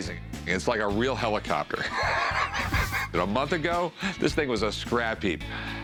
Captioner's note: laughs